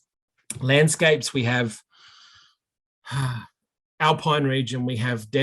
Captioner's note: sighing